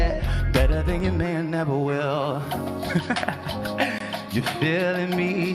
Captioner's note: laughs